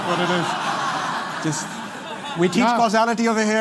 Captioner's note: laughter